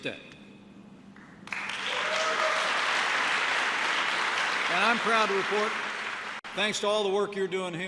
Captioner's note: applause